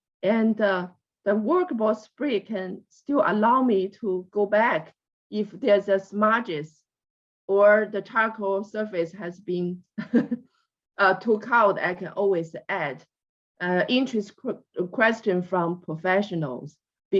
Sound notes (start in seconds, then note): 10.1 laughs